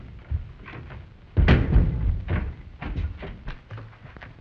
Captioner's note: door shuts